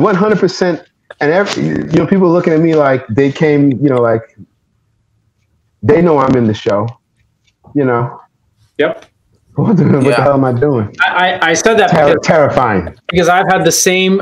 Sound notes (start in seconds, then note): none